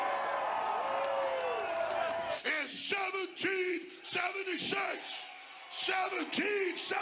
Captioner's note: applause